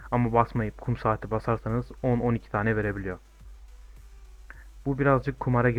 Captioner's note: clock